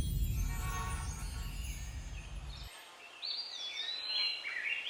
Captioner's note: birds chirping, traffic